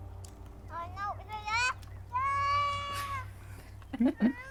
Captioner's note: baby chattering; laughing